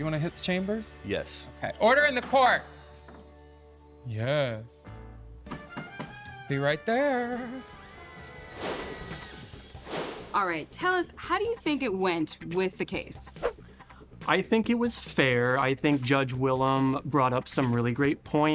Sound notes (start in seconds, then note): 4.8 swanky music; 8.4 icon air whoosh